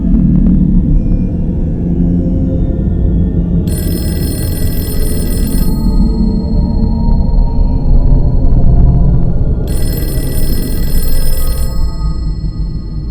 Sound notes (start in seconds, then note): 0.0 slow ambient music; 3.6 phone rings; 3.9 slow ambient music; 9.6 phone rings